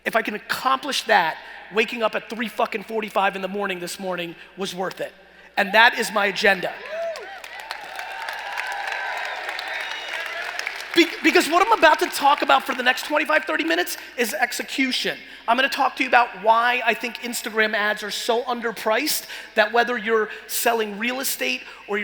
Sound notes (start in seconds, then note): 6.8 cheering and applauding